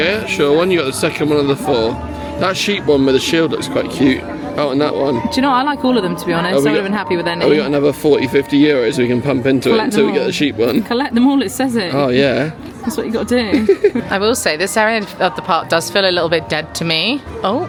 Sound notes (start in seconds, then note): 13.4 laughing